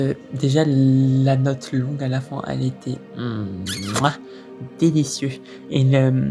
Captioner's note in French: smack